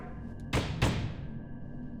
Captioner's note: pounding